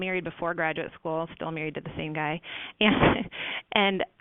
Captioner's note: laughs